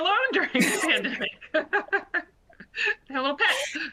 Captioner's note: laughter